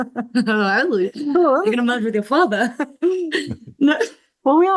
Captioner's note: laughs